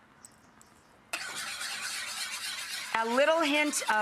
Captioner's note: whisk stirring